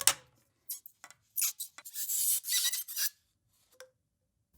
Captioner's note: PMMA pipes squeaking; more squeaking